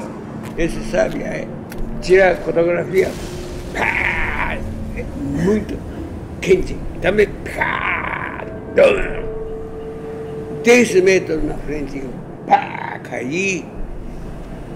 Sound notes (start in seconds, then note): 2.8 makes explosion sound; 7.0 makes another explosion sound